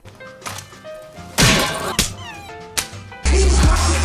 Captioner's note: slapping